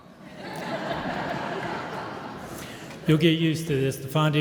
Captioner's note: audience laughs